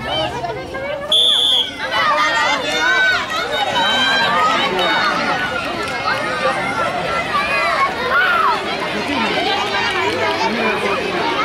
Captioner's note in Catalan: La gent anima